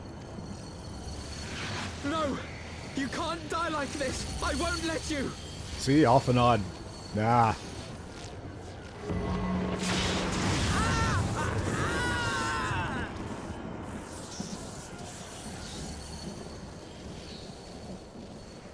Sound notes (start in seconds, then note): 10.4 screams